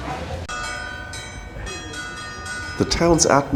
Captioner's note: church bells